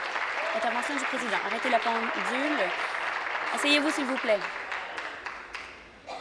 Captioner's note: applause